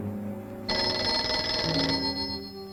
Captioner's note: phone ringing